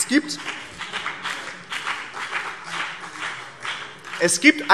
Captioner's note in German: Beifall BÜNDNIS 90/DIE GRÜNEN und vereinzelt SPD